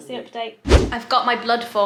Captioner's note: video swooshes